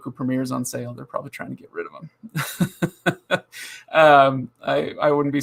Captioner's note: laughing